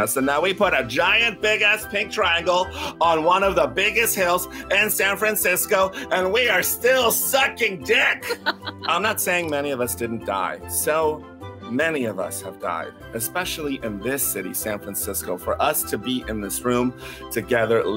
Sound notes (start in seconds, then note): 8.2 laughs